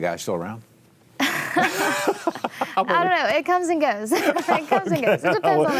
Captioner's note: laughing